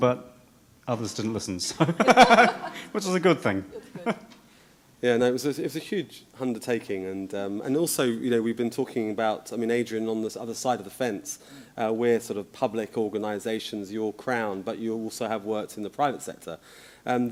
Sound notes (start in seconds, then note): 1.7 laughter